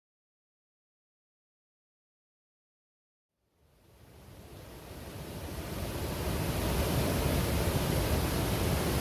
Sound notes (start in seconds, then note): 3.5 waterfall sounds